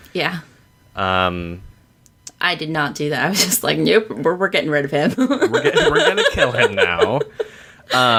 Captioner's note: laughs